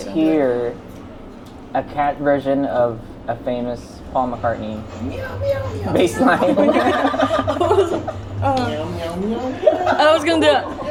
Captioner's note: laughter